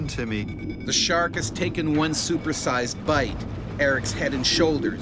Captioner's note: voiceover